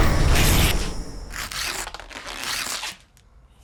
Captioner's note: thud